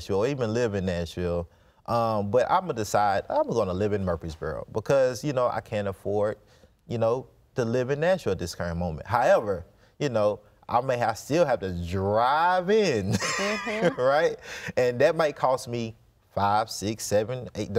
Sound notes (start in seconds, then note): 13.0 chuckles